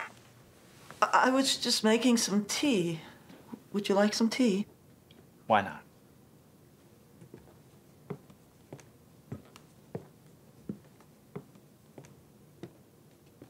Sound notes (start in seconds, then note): none